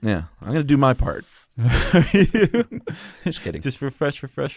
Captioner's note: laughs